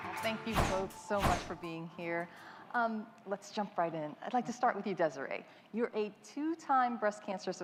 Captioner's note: applause